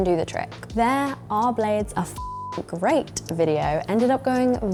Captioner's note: beep